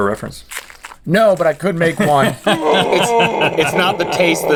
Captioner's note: Link gasps and moans